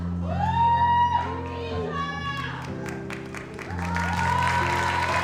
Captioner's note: audience applauds